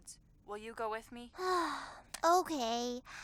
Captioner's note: sighs